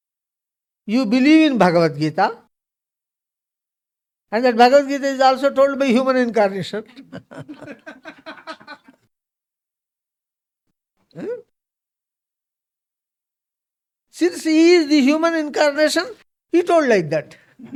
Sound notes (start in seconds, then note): 6.6 laughs